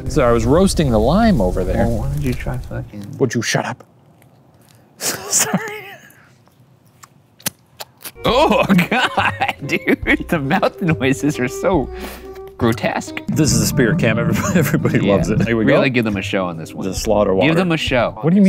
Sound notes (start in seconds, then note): 5.0 laughs; 7.7 slurping; 8.2 laughs